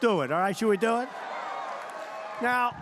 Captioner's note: applause